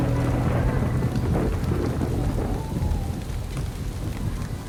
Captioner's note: thunder crashing